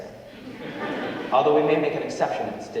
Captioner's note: audience laughing